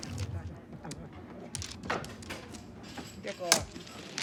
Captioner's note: players chattering